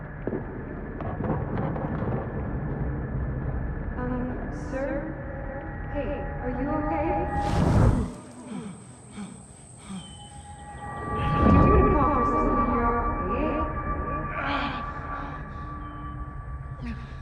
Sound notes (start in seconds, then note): 8.2 Norman breathing heavily; 14.3 Norman grunts